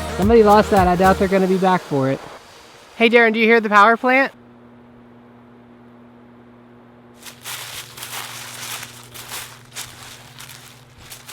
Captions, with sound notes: Somebody lost that. I doubt they're gonna be back for it. Hey Darren. Do you hear the powerplant? [60 Hz humming] [foot steps in leaves]